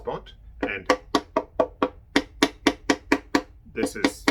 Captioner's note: hollow tapping